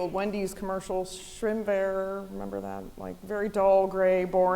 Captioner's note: foreign language